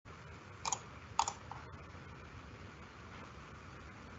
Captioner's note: mouse clacking